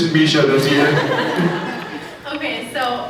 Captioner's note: chuckles; scattered laughs